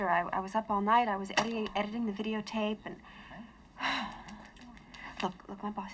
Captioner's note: sighs